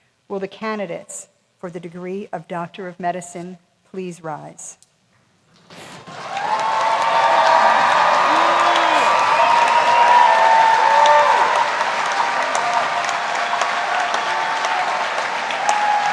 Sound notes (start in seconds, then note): 5.9 applause; 6.0 cheering